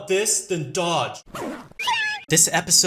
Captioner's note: unzip